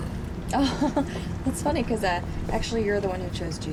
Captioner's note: laughs